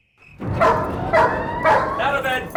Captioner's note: crickets; dogs barking; alarm ringing